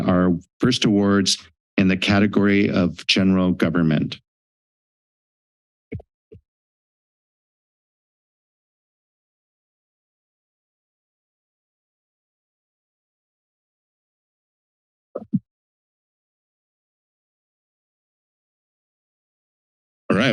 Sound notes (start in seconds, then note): 5.0 silence